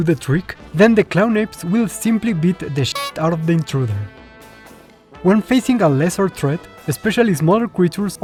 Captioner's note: honk